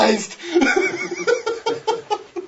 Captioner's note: laughs